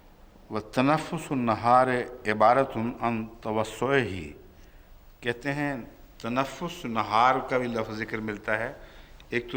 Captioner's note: Arabic